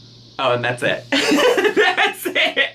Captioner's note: laughs